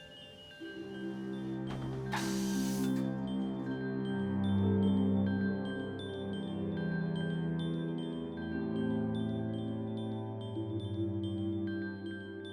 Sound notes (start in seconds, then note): 0.2 soft music playing; 2.2 air hissing